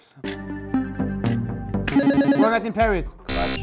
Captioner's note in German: Buzzer